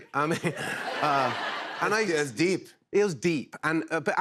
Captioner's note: laughter